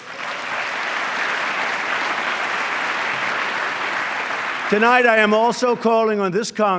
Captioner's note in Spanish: aplauso